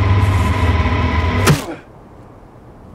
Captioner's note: bat whacking; wind blowing